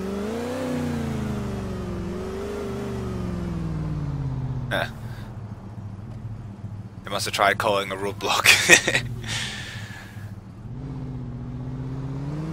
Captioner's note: laughs